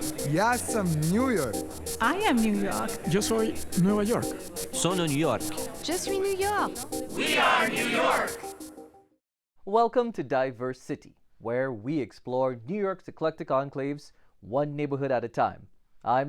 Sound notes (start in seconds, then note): 4.2 Spanish; 6.8 French